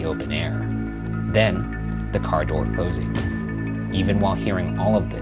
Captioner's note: car door slamming